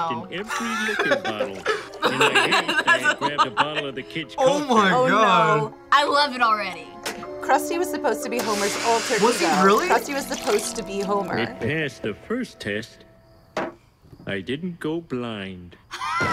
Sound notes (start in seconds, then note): 0.3 both laugh; 0.4 laughs